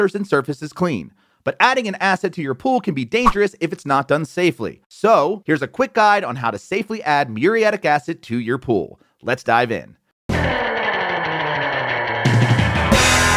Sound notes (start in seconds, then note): 3.2 graphics whishing; 10.2 rock music